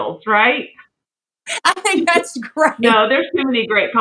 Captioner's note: laugh